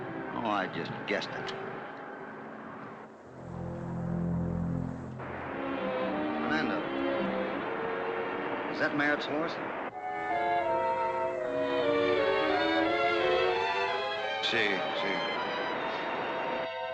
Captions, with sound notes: Oh, I just guessed it. [ SUSPENSEFUL MUSIC ] Fernando, is that Merritt's horse? [ IN SPANISH ] Yes, yes.